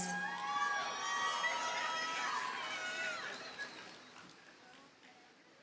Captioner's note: audience cheers and applauds